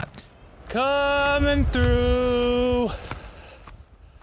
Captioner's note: yelling